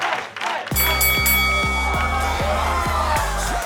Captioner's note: bell rings